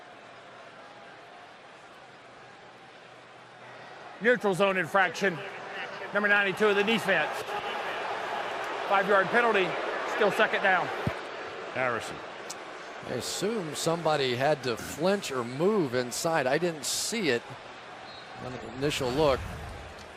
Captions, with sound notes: Neutral zone infraction, number 92 of the defense. [booing] 5-yard penalty. Still second down. Harrison. I assume somebody had to flinch or move inside. I didn't see it, the initial look.